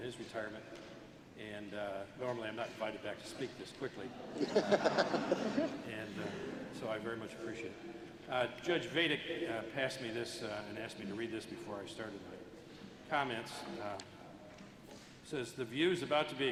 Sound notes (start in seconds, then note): 4.1 laughter